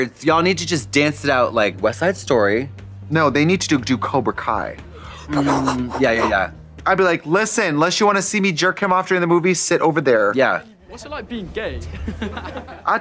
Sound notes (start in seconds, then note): 4.7 punching sounds; 12.4 laughing